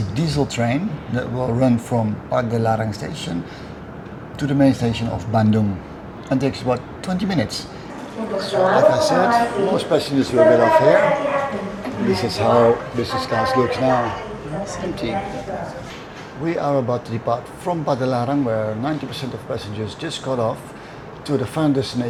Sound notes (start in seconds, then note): 8.0 announcement over tannoy